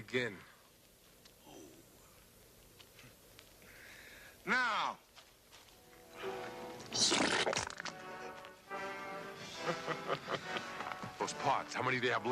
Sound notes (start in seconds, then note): 4.9 dramatic music; 4.9 laughs